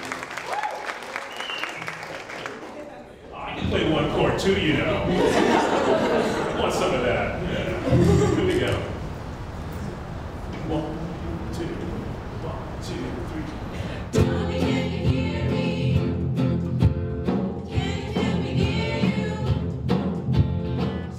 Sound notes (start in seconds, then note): 4.9 laughing